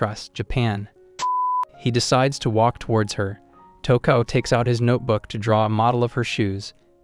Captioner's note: beep